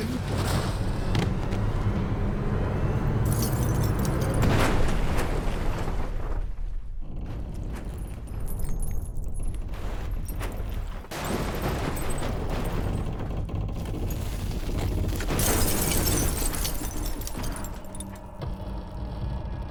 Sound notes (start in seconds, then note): 3.2 glass breaking